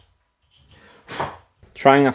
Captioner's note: blows air